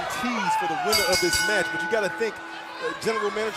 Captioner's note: bell ringing